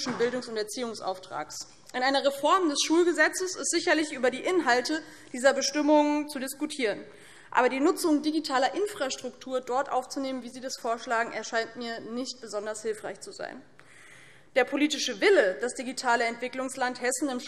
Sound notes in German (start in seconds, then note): none